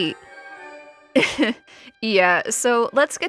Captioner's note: chuckles ominously